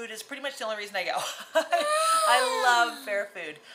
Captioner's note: laughing